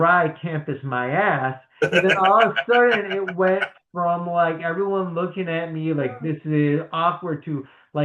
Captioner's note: laughs